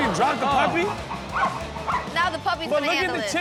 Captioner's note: puppy barks